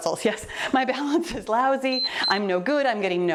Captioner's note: timer beeps